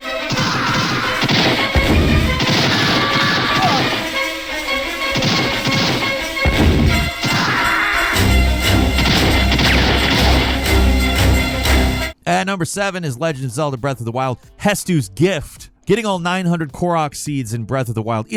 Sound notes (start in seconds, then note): 0.3 brooding music; 0.3 gun booming